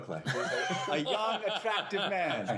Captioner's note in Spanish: risas